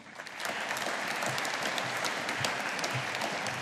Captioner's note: audience applauding